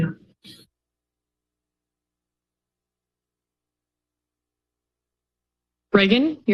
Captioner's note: silence